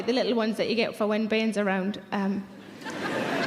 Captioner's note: audience laughing